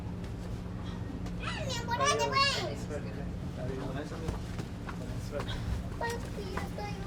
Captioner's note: family chattering in foreign language